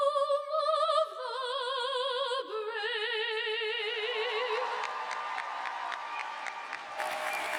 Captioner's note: applause